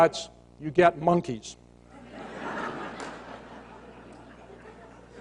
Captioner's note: laughter